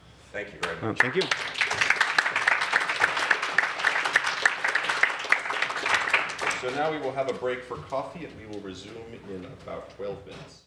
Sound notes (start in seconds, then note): 0.9 applause